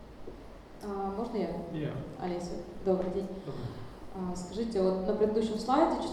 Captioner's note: speaking in foreign language